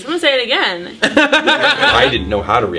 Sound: all laugh

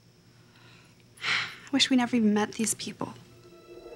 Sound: sighs

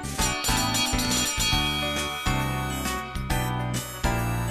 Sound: bell Clangs

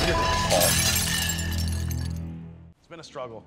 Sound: glass shattering

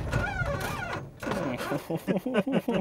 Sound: engine dies.... again

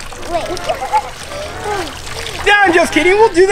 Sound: giggling

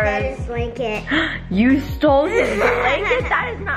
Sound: gasps

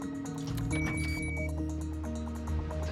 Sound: beep, click

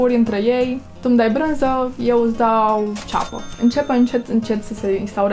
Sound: ka-ching sound

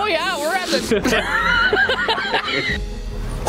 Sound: laughter

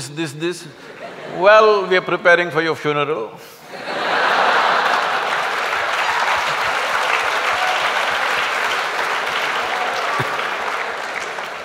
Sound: laughter\Applause

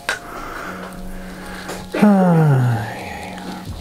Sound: sigh

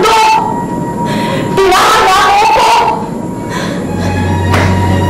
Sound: sobs

